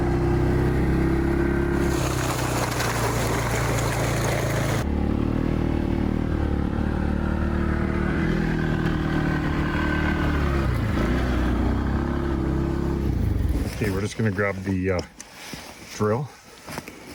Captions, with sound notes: (ATV engine rumble continuing) (ATV engine rumble continuing) Okay, we're just gonna grab the drill